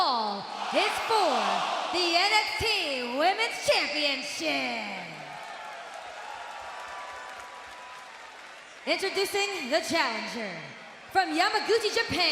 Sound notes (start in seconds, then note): 8.4 cheers and applause